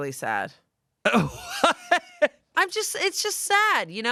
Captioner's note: laughs